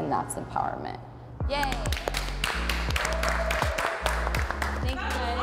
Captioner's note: group clapping